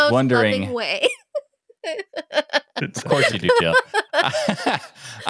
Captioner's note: laughing